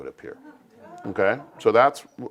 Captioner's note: laugh